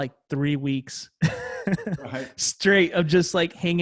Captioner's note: laughs